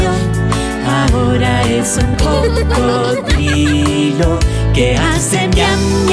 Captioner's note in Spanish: Risas